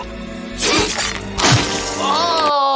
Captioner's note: gargling; squelching